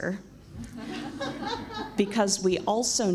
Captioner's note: laughs